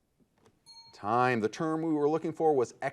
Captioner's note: timer beeping